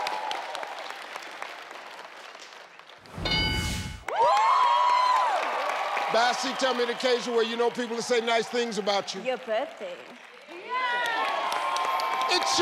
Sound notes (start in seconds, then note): 3.0 board dings; 4.0 audience cheering